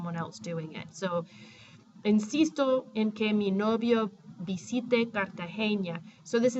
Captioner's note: speaking spanish